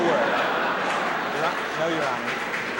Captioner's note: laughter